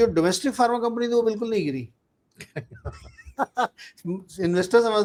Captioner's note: laughter